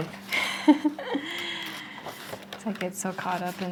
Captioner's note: laughs